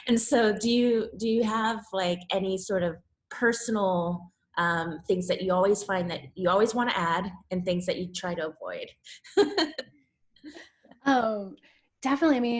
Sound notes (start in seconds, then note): 9.3 laughs